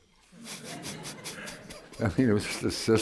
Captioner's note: laughter